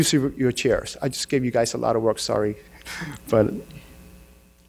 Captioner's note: laughs